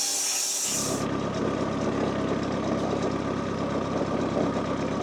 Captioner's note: forklift engine rumbling